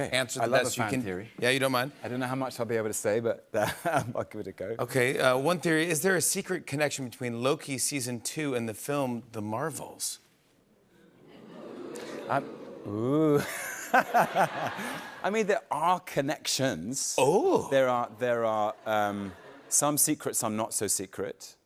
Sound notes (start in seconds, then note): 3.4 chuckles; 10.6 audience oohs; 13.0 laughter